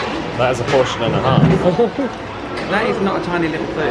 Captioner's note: laughs